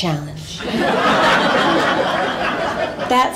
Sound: laughter

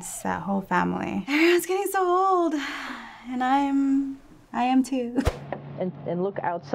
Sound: sighs

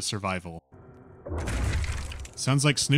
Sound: whack

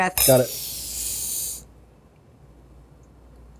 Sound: both inhale

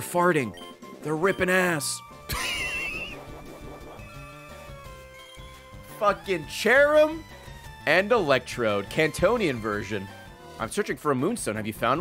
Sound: laughs

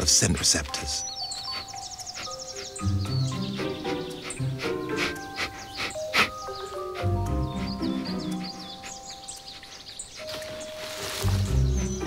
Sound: sniffing, music playing

